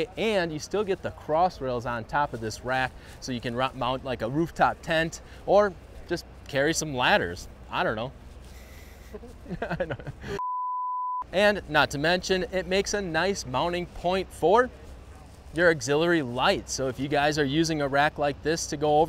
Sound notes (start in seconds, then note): 8.6 giggles; 10.4 beep